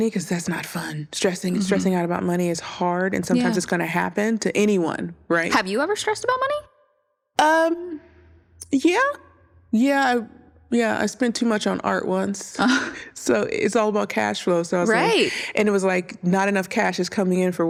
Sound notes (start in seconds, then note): 12.5 chuckles